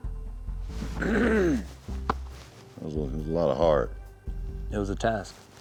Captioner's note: clears throat